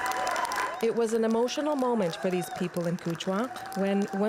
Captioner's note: applause